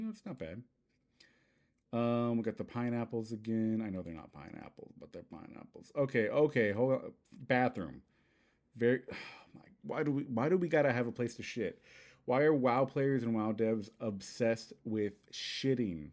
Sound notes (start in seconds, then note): 9.1 sigh